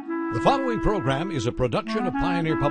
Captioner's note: voiceover